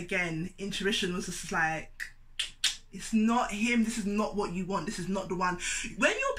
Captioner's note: click, click